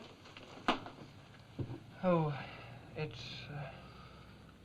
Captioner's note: none